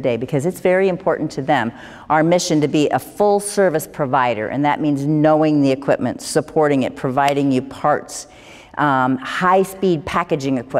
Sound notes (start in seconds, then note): none